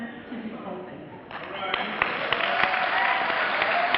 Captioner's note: clapping